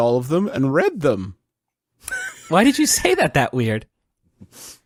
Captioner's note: laughs